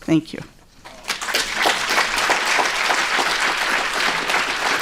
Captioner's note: applause